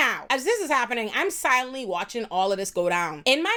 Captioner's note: none